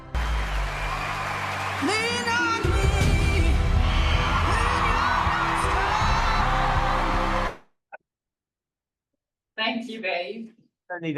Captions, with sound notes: [screaming and applause] Thank you, Dave.